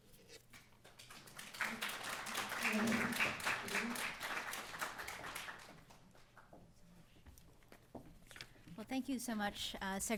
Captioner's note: applause